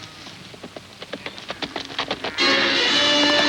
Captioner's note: horse galloping; suspenseful music